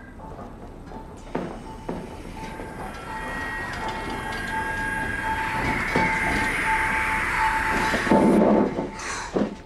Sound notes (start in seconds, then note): 1.3 machine noises become louder